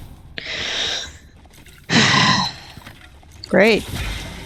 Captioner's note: big sigh